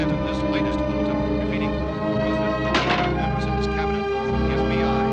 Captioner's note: radio continues - fading out